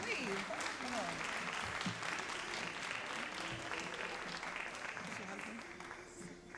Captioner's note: all applauding